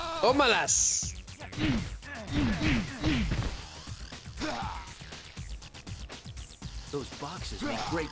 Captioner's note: groaning